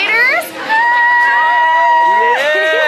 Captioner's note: exclaims